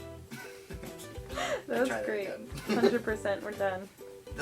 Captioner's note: laughing